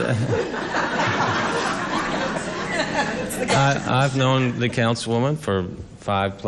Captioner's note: laughter